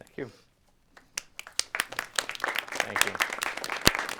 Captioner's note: audience applauds